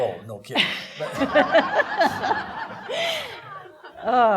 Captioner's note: laughing